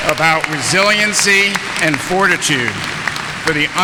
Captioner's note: audience applauding